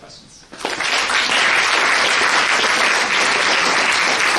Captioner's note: clapping